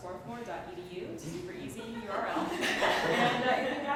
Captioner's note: laughter